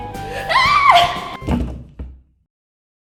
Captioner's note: thump